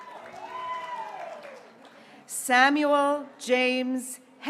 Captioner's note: graduates cheering